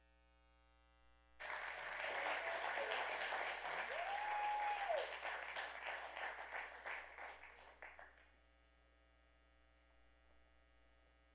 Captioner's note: applause